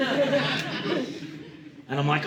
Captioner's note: audience laughing